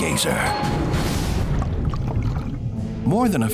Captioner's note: dramatic music; water gurgles